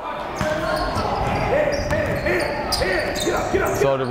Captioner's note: yelling